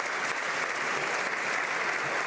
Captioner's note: some Applause